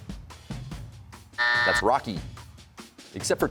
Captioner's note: buzzer sounds